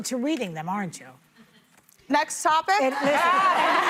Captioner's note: laughter